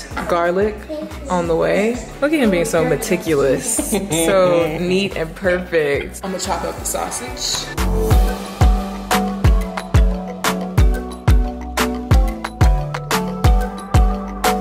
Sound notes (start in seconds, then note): 3.5 laughing; 8.2 upbeat music playing